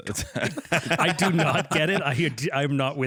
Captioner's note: laughs